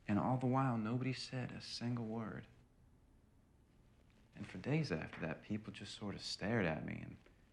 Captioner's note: none